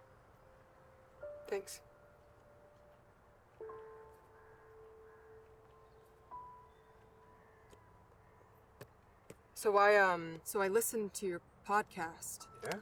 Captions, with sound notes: - Thanks. (gentle music) (birds squawking) So I, um, so I listened to your podcast.